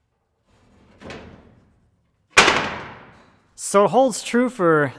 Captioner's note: wood thudding